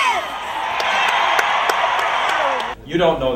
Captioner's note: crowd cheers and clapping